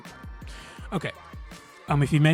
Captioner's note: ranting